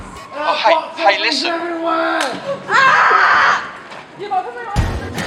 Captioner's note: laughs; people screaming and shouting in reaction to the box heads; upbeat music